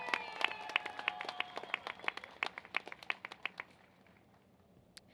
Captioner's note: cheers and applause